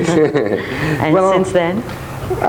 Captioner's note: both chuckle